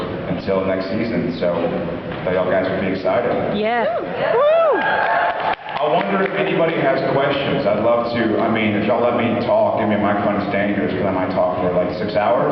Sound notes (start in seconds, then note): 4.0 cheers, applauds